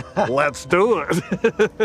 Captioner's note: laughs